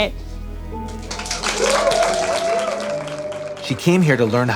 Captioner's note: audience applauds